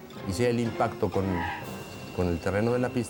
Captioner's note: wheels squeal